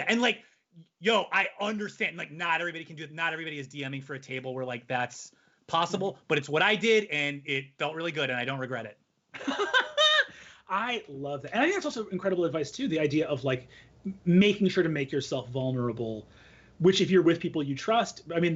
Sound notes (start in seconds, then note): 9.4 laughing